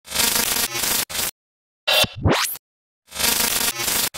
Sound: electronic sound effect

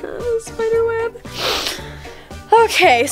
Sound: shrieking

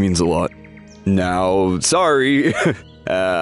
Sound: chuckles

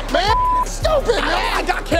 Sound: beep

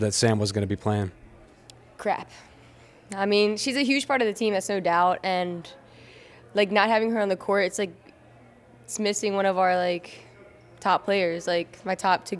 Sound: breathes in

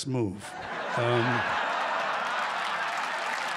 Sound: laughter; loud laughter, applause

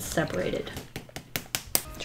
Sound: smacking

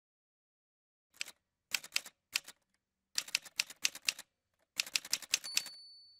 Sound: typewriter sounds

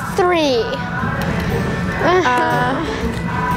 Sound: whines

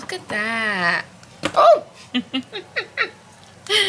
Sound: laughs

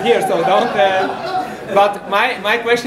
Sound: laughter

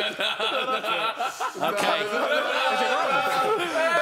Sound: shouting

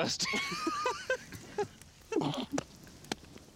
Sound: laughing

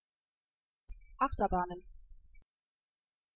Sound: fast Pronunciation

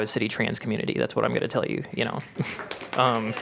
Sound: applause

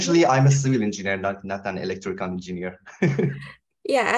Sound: laughs

